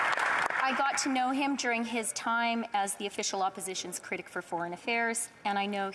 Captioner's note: applause